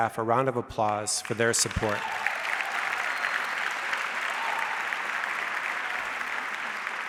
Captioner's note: audience applauds